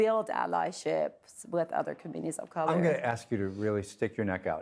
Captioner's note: laughing